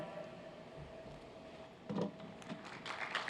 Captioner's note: cheers and applause